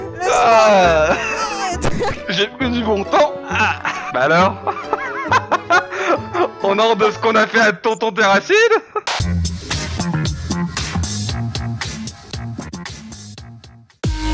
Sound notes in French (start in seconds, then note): 4.6 rires